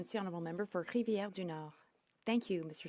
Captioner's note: speaking French